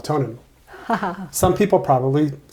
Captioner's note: laughs